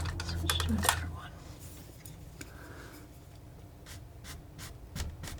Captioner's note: scratching noise